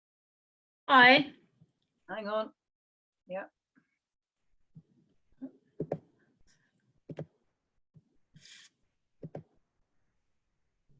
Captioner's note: key board sounds